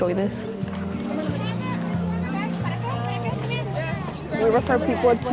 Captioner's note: crowd noises